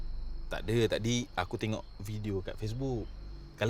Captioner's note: in Bahasa Melayu